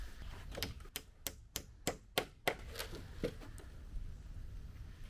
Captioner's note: hammer pounding